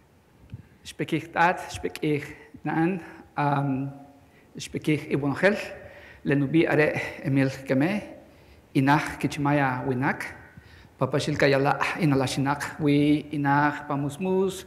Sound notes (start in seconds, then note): 0.9 non-english speech